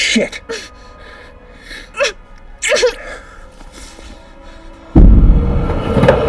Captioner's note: whimpers